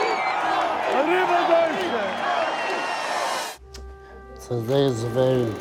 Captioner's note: chanting; speaking in foreign language